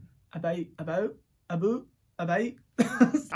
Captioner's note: laughs